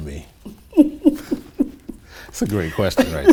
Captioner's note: chuckling